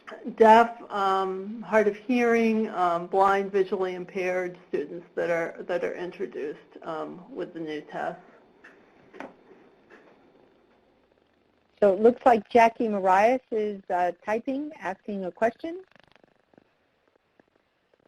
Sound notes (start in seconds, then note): 11.9 voiceover